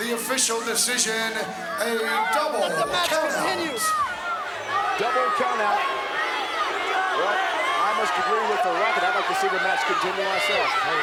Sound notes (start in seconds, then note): 6.7 crowd boos